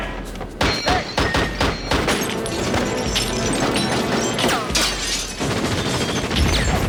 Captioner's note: suspenseful music; gunshots